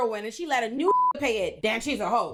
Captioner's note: beep